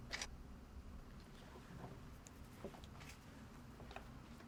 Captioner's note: shutter clicking